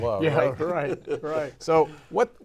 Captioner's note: all laughing